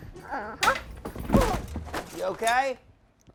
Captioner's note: thud